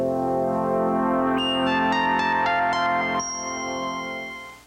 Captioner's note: electronic beeping